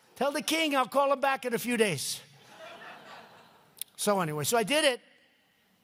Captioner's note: laughter